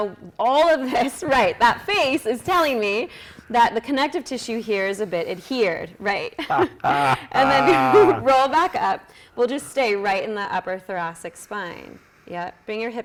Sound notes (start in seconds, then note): 6.4 laughing